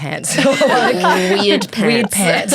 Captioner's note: everyone laughs